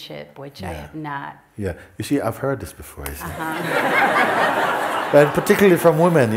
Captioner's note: laughter